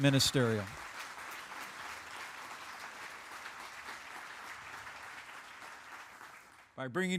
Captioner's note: applause